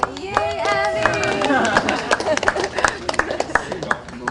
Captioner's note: everyone cheering